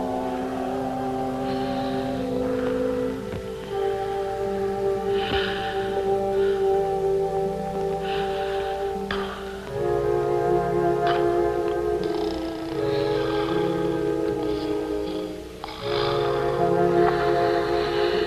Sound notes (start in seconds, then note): 11.9 snoring